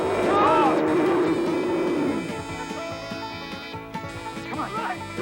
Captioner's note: group yelling; dinosaur roaring